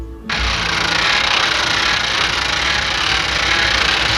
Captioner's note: gears cranking